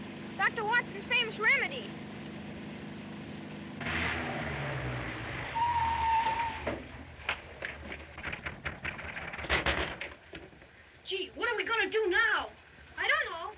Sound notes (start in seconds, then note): 5.2 tires Screeching; 6.6 door Rattles; 7.9 Knocking